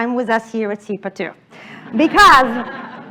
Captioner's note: laughter